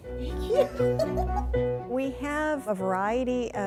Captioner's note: laughs